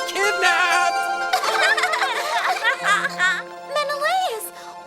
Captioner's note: laughter